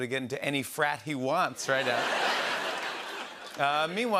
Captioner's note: laughter